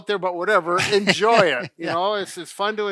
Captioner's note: laughs